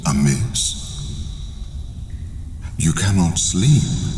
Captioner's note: cave noises